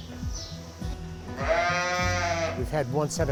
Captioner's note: sheep bleats